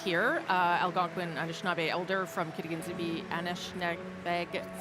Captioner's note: cheering and applause